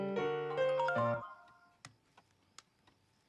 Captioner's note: cell phone chimes